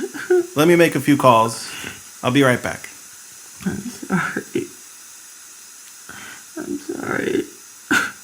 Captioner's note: crying sounds